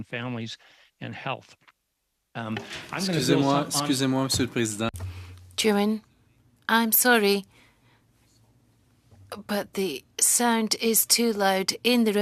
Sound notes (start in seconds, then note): 9.2 speaking French